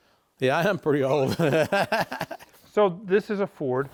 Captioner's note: laughing